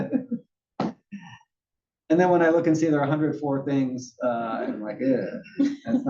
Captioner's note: laugh